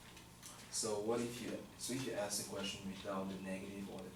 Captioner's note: voiceover